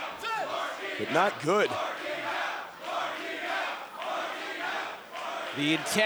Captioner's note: fans chanting